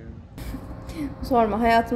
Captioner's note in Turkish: Yağmur kıkırdar